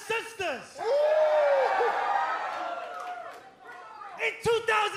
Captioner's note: cheers and applause